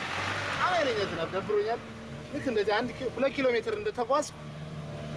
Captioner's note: speaking in foreign